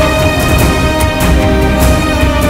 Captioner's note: Car Door Closes